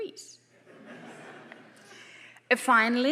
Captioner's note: audience laughing